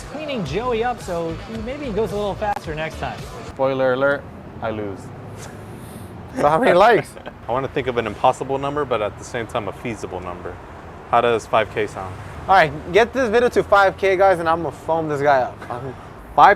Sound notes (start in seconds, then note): 6.3 chuckling